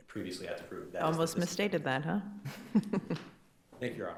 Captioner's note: chuckles